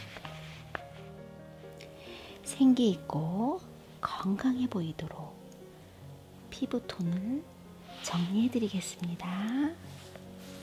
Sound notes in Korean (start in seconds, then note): none